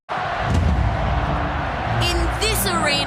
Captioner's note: crowd cheering